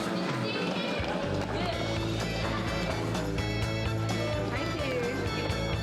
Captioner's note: indistinct chatter